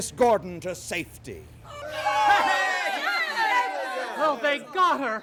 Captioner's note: cheering